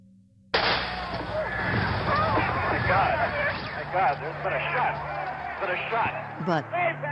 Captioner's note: gunshot